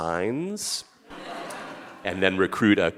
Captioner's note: audience laughing